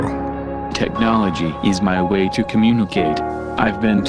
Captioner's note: robotic Voice